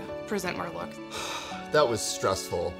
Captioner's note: sighs